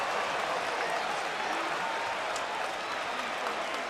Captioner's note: crowd cheering; crowd chatter